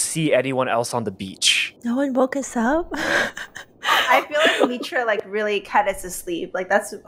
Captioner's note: laughs